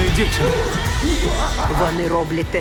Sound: imitating ape

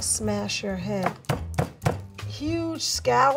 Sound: board banging

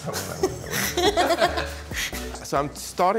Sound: laughing

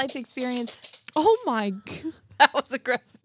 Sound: dog nails clacking

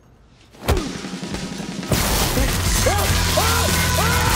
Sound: electricity sizzles; kick whacks; Hughie screaming

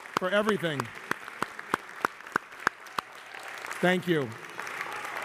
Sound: applause

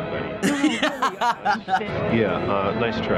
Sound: laughs

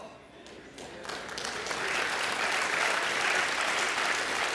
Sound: applause

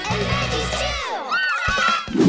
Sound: cheering

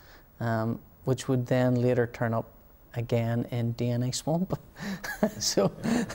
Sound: laughter

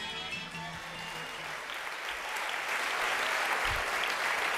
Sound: applause

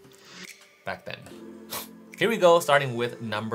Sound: sniffles

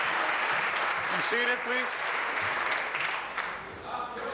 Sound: applause

